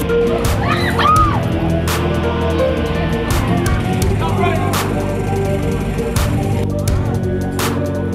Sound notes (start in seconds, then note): 0.5 screaming